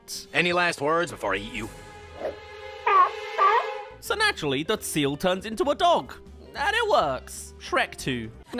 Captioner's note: whimpers